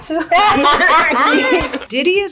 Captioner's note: laughing